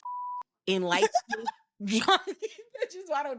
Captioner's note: laughing